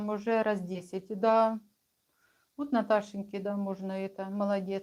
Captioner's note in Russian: none